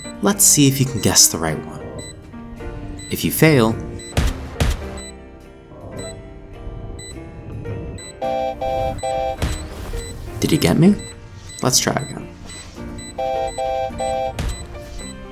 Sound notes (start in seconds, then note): 4.1 gunshots